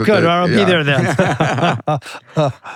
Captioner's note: both laughing